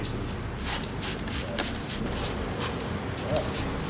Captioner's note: squirt, squirt, squirt squirt